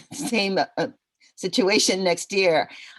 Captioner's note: laughter